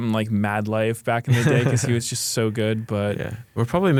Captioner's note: laughs